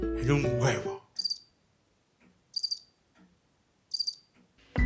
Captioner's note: silence